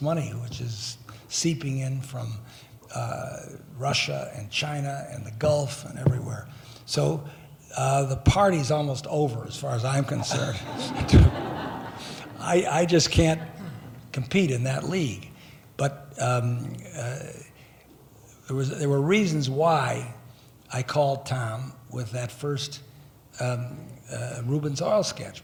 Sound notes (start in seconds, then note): 10.0 laughing